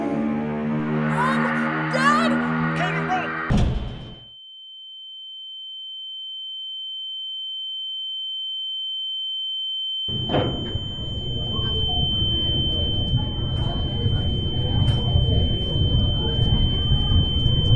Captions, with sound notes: (Screaming) Mom! Dad! Katie, run!